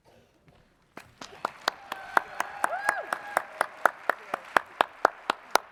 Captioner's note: audience cheers and applauds